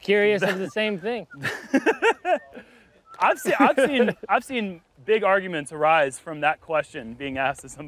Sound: chuckles

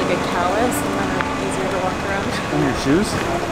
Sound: laughing

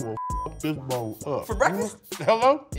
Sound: beep

